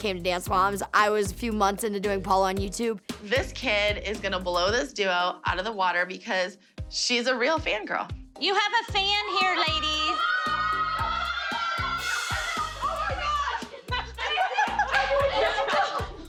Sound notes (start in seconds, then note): 9.6 cheering; 12.4 all laughing